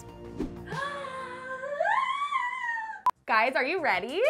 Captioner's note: dramatically gasps